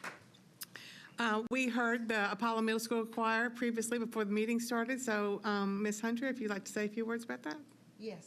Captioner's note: applause